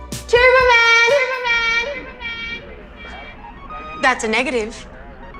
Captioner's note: echoes